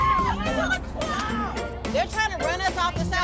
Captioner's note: all clamoring; tires screech